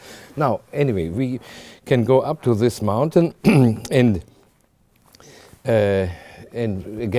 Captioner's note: clears throat